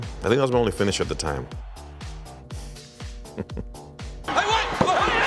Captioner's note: laugh